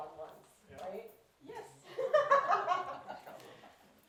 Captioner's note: laughs